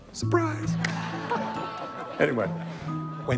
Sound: laughter

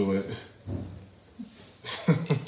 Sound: laughter

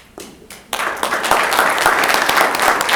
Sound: applause

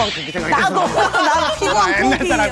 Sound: laughing

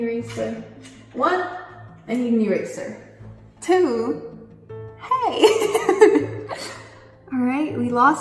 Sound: laughs

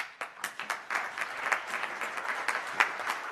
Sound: applause

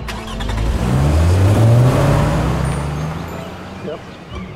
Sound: engine starting

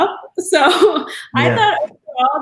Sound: laugh

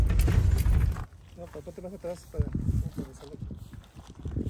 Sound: men speaking in spanish

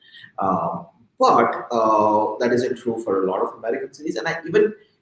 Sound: speaking softly

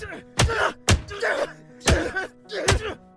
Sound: punching; grunts; glass shatters

